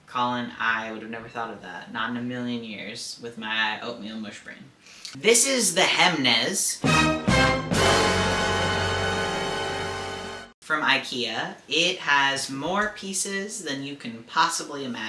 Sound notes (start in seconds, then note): 6.9 dun dun dun! sound effect